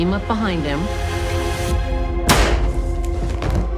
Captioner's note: gunshot